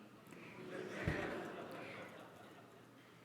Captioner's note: laughter